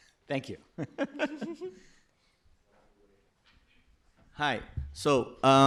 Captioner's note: laughs